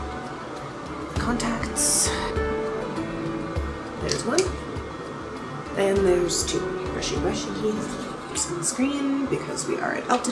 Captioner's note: tooth brushie sounds